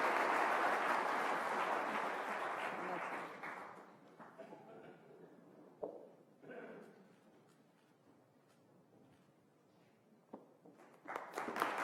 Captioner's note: applause